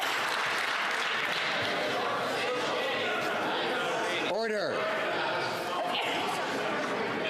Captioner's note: some Applause